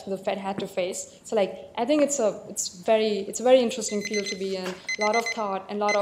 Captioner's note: background beeping